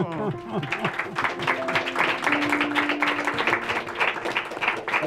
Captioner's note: crowd applauding